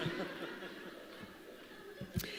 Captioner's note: laughter